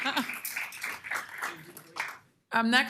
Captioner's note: applause